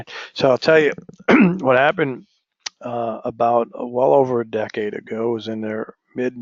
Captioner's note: cough